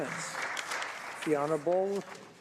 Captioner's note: some Applause